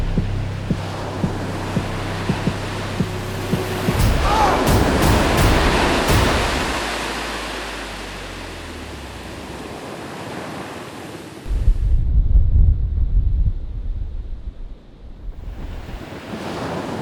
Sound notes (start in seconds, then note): 4.2 grunts